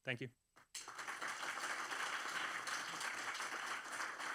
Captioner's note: applause